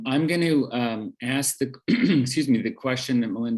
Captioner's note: clears throat